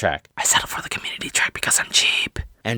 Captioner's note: whispers